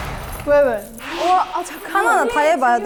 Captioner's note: bunch of keys